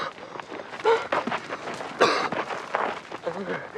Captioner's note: whimpering and coughing